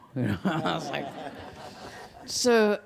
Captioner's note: audience laughs